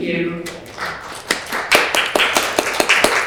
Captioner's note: applause